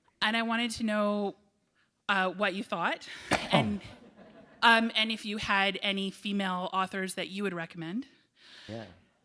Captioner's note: laughter